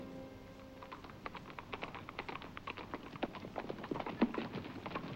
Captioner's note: horses' hooves clopping